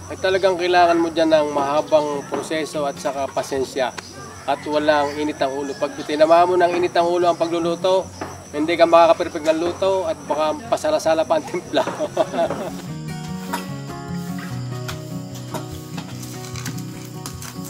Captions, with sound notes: It's a really long process. It takes a lot of patience and you shouldn't go through it rashly. If you are a hot-headed during cooking, the outcome might be bland and it won't be perfect. (laughs)